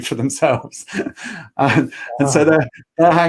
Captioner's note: laughing